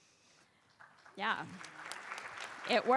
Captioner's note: applause